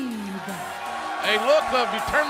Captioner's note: cheers and applause